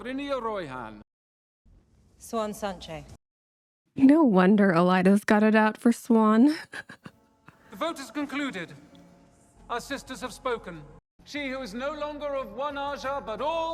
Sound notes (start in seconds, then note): 6.5 laughs